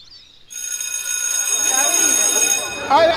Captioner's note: bell ringing